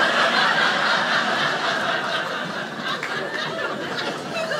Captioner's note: audience laughing